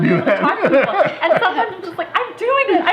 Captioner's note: laughter